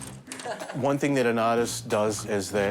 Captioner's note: laughing